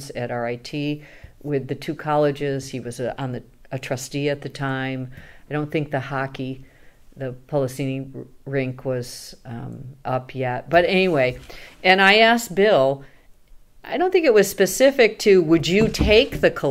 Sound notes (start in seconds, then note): none